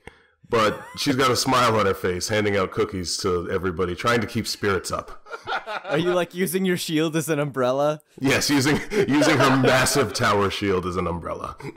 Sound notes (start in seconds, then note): 5.2 laughter